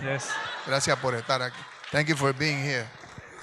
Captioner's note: speaks in Spanish